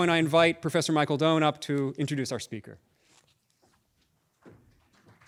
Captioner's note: applause